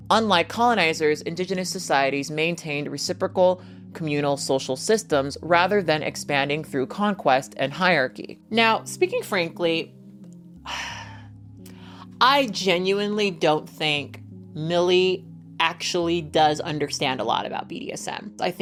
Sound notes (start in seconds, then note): 10.6 sighs